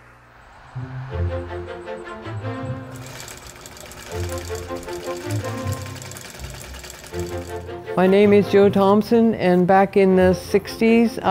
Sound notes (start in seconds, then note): 3.8 whirring